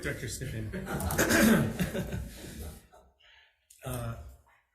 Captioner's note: people laugh